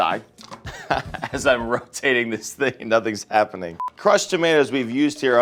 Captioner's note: laughs